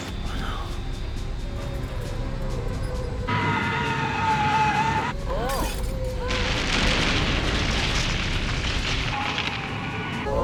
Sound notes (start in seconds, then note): 3.3 gasping; 3.3 tires Screeching